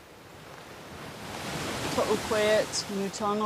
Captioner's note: waves lapping